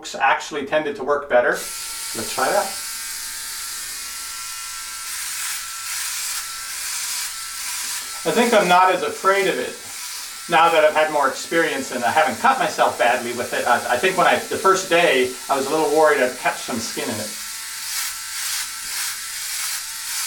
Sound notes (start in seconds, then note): 3.0 buzzing